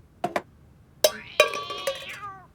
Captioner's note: cat mewling weakly